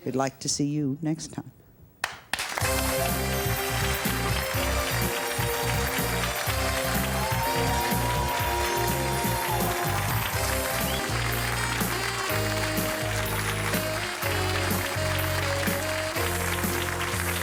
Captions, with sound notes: We'd like to see you next time. (crowd applause) (upbeat music)